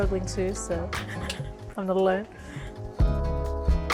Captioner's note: chuckles